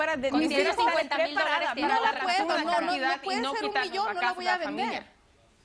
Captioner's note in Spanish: Hablan al unísono